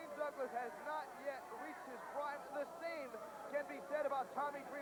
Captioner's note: crowd chatter